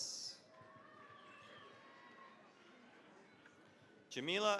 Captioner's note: cheering, applause